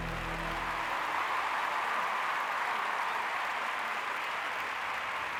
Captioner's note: cheers and applause